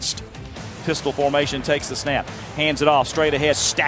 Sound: voiceover

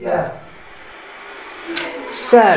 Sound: white noise

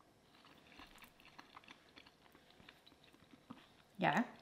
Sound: munching

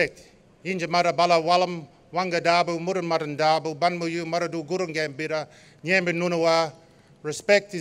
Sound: non-english speech

